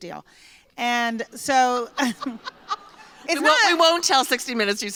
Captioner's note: laughter